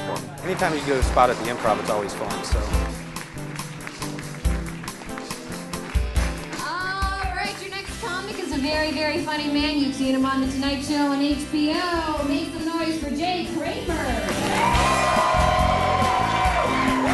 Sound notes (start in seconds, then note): 14.2 cheering and applause